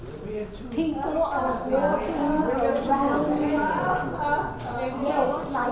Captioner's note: audience talking to each other